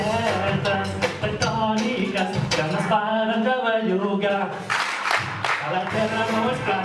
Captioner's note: audience claps x3